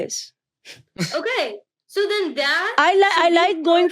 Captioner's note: child chuckling